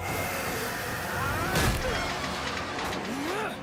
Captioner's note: grunting